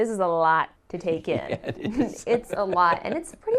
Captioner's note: laughing